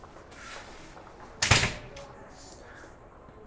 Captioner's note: door thuds